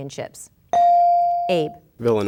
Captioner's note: bell dinging